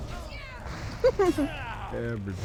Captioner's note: chuckles